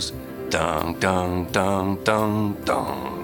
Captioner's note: humming